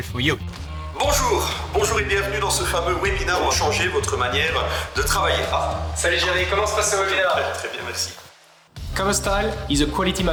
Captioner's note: speaking french